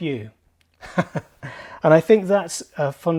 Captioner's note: chuckles